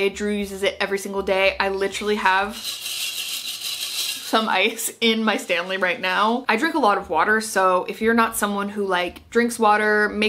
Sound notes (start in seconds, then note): 2.6 ice pattering